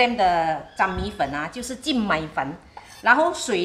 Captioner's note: Cantonese